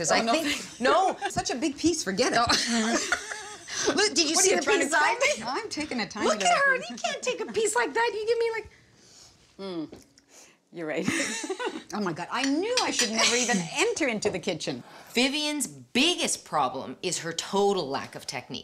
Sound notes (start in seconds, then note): 2.2 laughs; 11.0 laughs